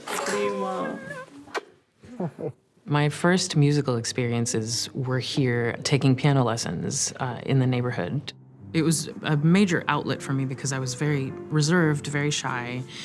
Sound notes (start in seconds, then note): 0.0 both kiss; 2.0 chuckles